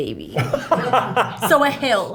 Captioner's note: laughs